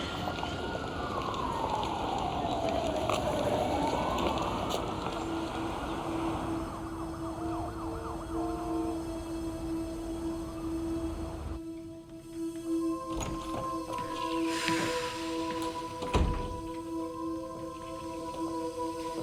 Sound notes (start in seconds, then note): 5.5 tense music; 14.9 Nora sighs